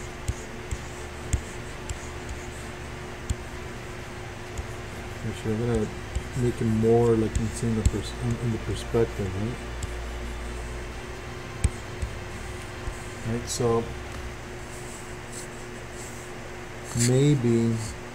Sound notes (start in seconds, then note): 0.1 computer mouse tapping; 5.1 voice muffled; 9.7 faint techno music